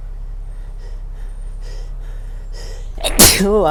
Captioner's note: more sneezing incoming